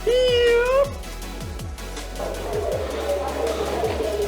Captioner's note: laughing